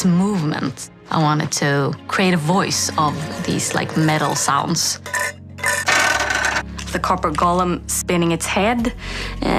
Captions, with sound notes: So the personality would have to be in its movements. I wanted to create a voice of these like metal sounds. [Scraping] The Copper Golem spinning its head.